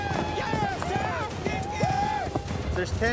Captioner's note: cowboys shout encouragement